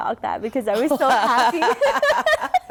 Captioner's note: laughter